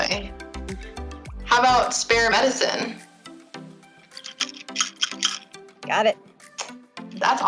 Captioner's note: shaking bottle